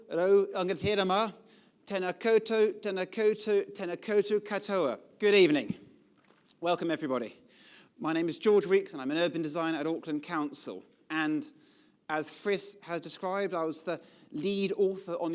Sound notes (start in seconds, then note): 0.0 speaking foreign languages; 1.2 speaking foreign language